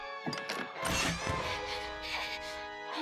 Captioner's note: panting